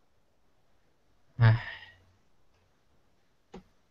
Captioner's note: sigh